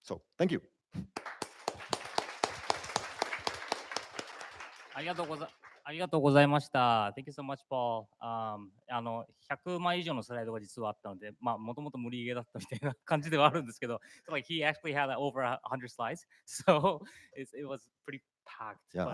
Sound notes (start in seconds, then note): 1.0 applause; 6.0 speaking japanese; 9.0 speaking japanese